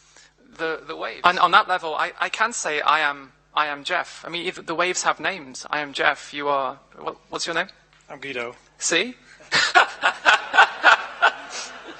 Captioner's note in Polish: śmiech